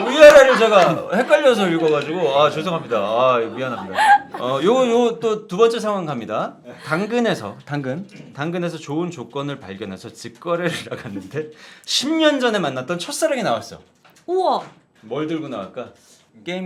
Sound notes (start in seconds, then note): 3.7 holding back laughter